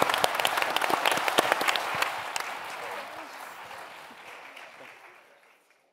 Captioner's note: audience and panel applauding